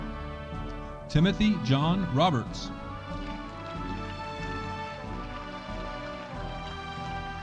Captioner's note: audience applauding